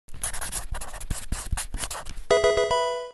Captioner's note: pencil writing; Pokemon game sound